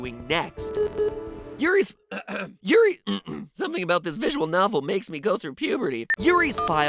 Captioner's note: clears throat